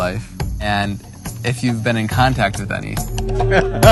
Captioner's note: Sadhguru laughs